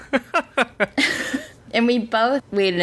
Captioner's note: laughs